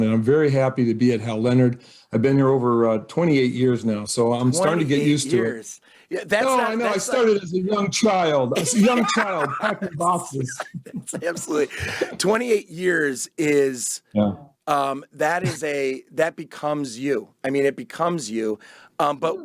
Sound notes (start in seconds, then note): 10.5 both laugh